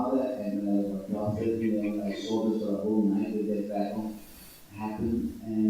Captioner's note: microphone muffles speech